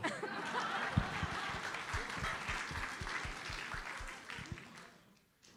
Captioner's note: audience laughs and applauds